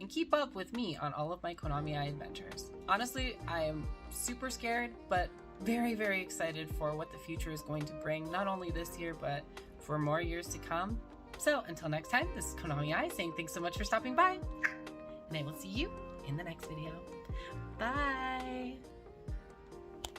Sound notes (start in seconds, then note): 14.5 tongue pop!